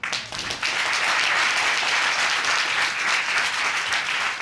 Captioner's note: audience applauding